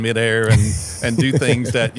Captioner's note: laughing